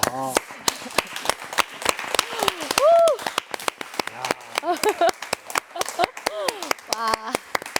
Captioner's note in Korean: 다 함께 박수